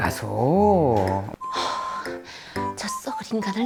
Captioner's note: long sigh